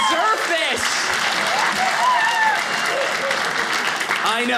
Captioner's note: audience cheering